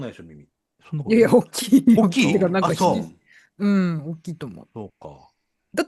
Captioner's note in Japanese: 笑い